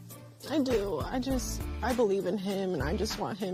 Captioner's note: voice breaking